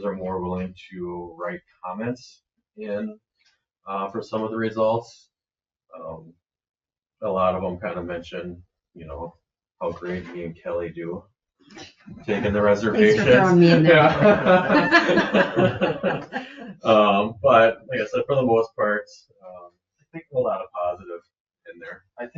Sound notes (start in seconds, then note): 14.5 all laughing